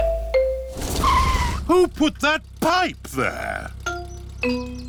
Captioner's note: tires screech